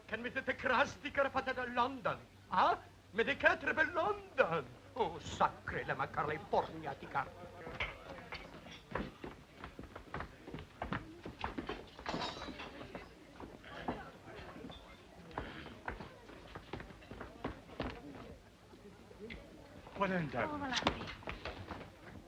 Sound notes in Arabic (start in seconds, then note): 0.1 بوريس يتحدث بلغة أجنبية; 7.5 ثرثرة خافتة; 8.1 خطوات سريعة